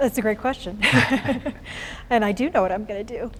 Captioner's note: chuckles